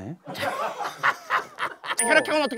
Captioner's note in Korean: ㅎㅎㅎㅎㅎㅎㅎㅎㅎㅎㅎ